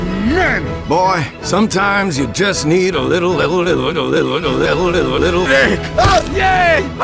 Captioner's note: Crap Engineer is Stammering